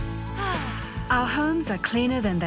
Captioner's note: sighs